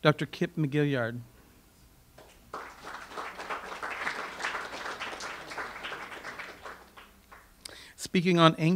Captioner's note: audience applause